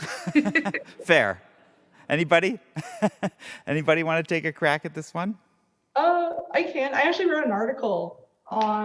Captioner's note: laughter